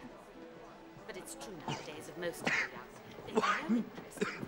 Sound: coughing

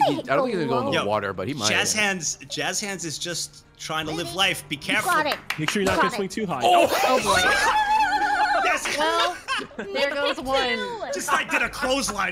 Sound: laughs

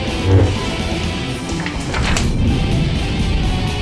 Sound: paper flutters

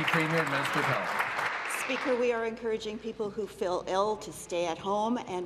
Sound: applause

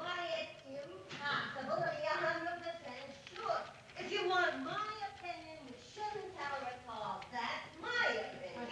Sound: distant yelling

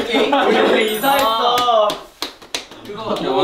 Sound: applause

